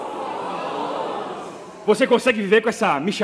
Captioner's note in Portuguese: platéia espantada